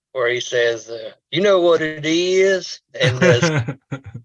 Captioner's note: chuckles